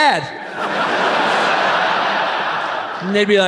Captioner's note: audience laughs